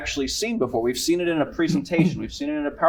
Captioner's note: cough